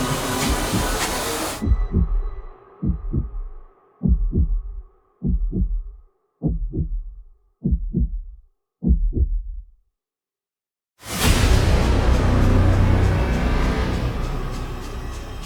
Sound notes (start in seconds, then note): 4.5 heart beating; 4.5 suspenseful music settles; 11.0 suspenseful music continues